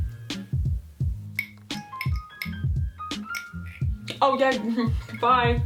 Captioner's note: clinks glass